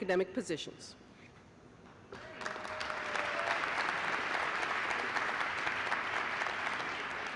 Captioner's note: applause